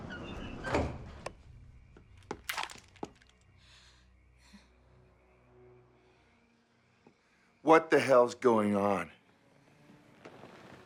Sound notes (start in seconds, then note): none